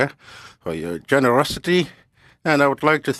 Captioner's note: speaking French